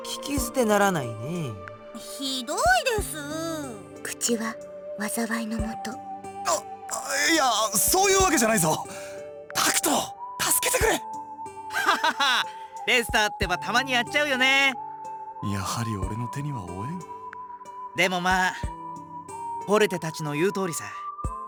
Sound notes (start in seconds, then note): 8.8 panicked gasp; 11.7 laugh